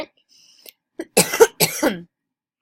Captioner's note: coughs